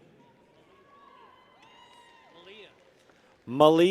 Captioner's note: people cheer